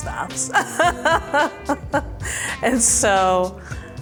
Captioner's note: laughing